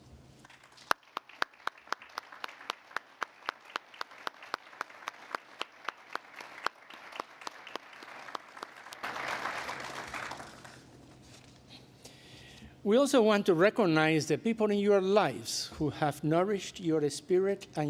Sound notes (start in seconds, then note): 0.4 applause